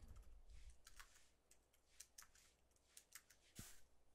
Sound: keyboard clanking

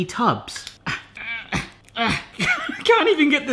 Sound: laughs; straining

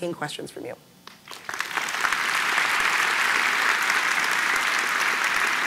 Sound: audience applause

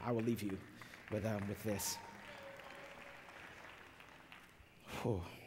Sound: applause

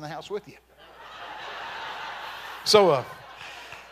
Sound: congregation laughing

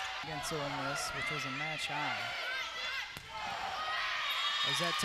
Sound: players yelling

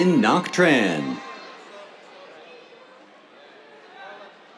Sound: cheers

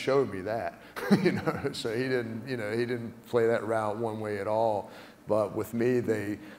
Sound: laugh

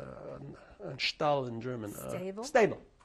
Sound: non-english

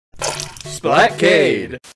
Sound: splat; intro music

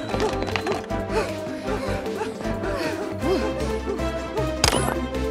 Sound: panting/heavy breathing

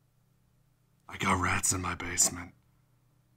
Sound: whispering

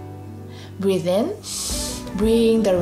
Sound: breathes in deeply

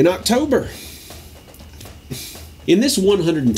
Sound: sighs

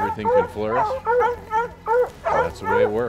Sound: dogs barking

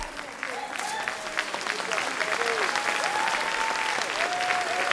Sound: audience cheering

